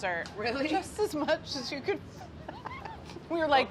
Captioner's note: laughing